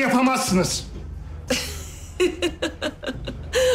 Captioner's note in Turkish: Gülme sesi